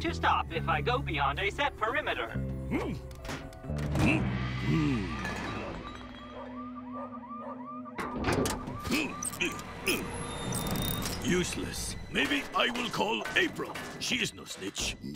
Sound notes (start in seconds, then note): 2.6 huffs; 5.0 alarm blaring faintly